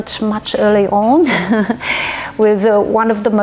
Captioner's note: laughs